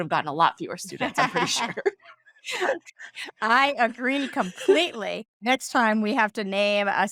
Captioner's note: laughing